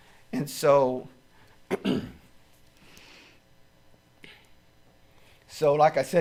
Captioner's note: clears throat